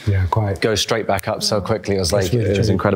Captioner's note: snaps